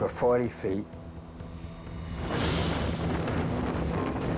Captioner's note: waves crashing loudly